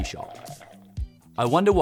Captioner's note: bubbles bubbling